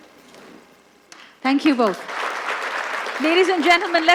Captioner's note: applause